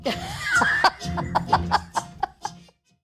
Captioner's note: laughs